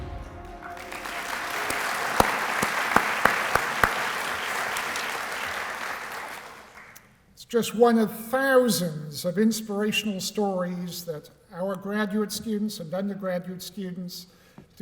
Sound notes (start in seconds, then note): 0.4 applause